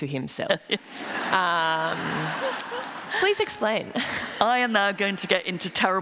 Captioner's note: laughter